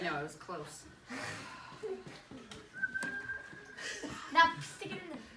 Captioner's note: whistling